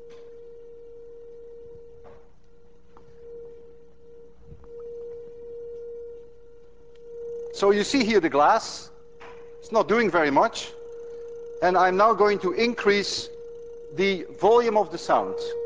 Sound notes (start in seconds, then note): 2.6 tone continues; 14.6 high tone gets louder